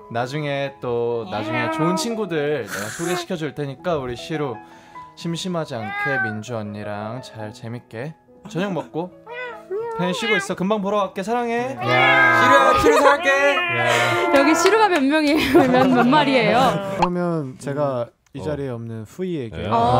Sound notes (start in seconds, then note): 11.8 meowing in unison